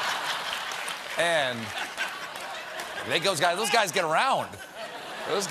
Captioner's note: laughter